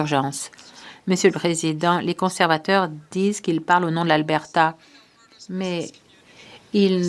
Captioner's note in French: voix de l'interprète